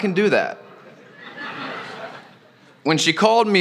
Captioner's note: laughter